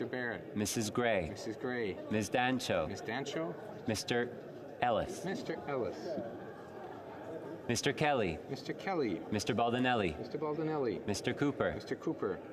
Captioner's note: calling of recorded vote